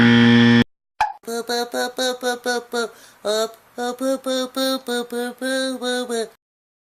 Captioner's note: baby talk